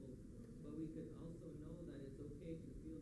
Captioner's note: foreign language